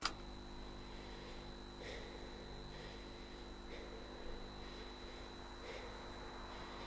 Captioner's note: button clicks; screen humming; viewer breathing heavily